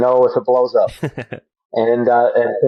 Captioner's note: laughs